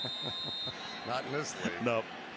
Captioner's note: laughter